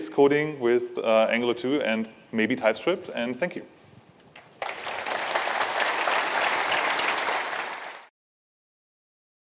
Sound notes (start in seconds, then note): 4.3 applause